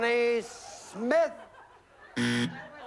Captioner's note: buzzer